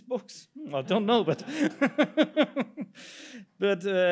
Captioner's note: laughs